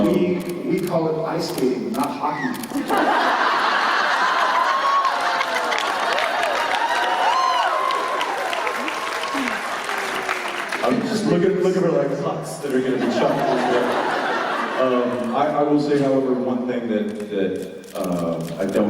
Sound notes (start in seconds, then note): 2.7 laughter and cheers